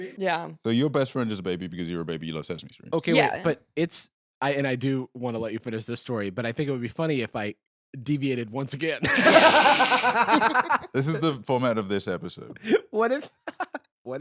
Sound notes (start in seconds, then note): 9.0 all laugh; 13.3 laughs